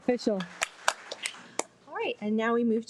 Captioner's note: participants applauding